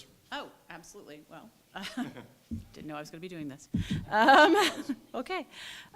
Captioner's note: laughter